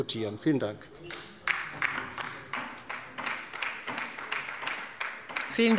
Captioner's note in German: Beifall bei der LINKEN